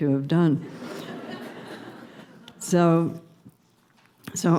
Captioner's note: laughter